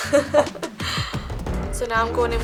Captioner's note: laughs